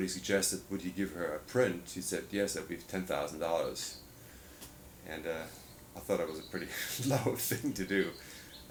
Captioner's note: laughs